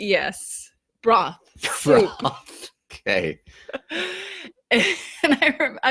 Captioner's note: laughs